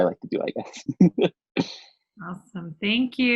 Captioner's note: laughs